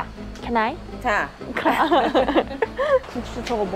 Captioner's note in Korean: ㅋㅋㅋㅋㅋㅋㅋㅋㅋㅋㅋㅋ